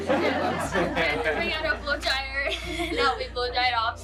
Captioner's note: all laughing